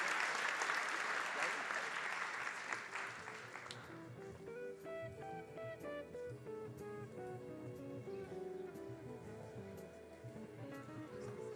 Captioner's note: applause